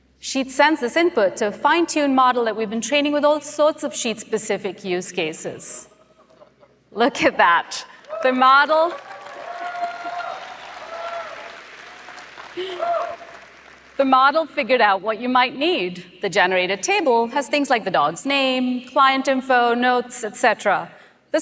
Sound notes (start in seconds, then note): 8.8 applause